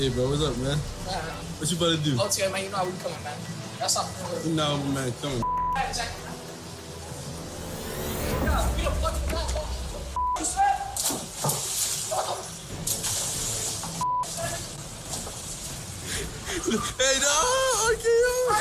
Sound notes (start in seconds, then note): 8.3 yelling; 16.2 cameraman chuckling